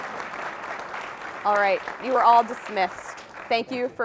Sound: applause

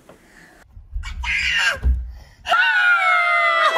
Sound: baby scream; parents scream

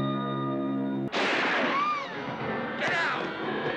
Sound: lighting crashes; woman screams

